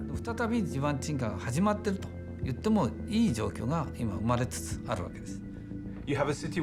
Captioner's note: speaking Japanese